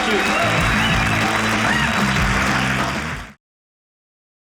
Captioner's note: audience cheering